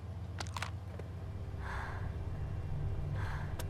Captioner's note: phone clicks shut; Mattie breathing heavily